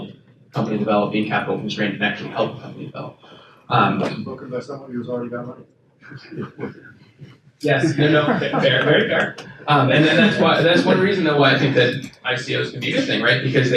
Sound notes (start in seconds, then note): 7.7 attendees chuckle